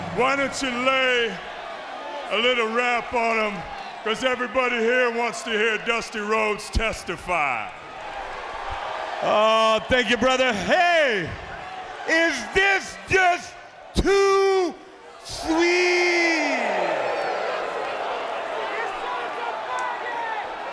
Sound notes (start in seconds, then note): 17.2 audience chattering